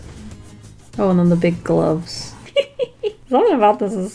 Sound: laugh

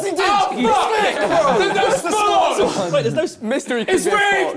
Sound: crowd mumbling

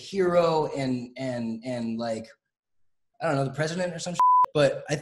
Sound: beep

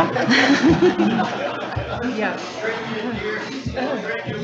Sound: everyone laughs

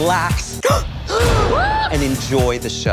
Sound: shocked gasps

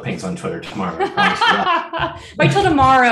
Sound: laughing

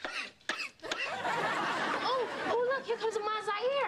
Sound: coughing

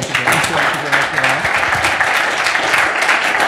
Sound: applause

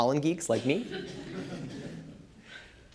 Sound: laughter

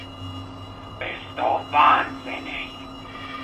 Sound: speaks in German

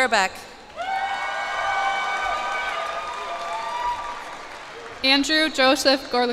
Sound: cheers and applause

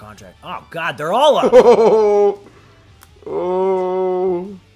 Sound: laugh

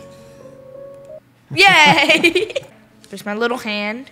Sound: soft click; laughs

